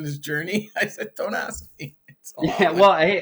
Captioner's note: laughs